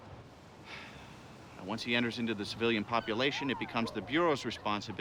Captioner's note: sighs